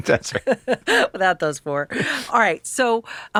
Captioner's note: laughs